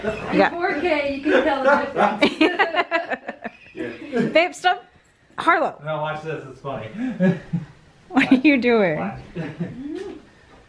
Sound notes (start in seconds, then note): 1.0 laughing; 7.0 laughing